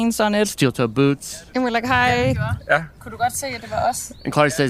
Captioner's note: speaking Danish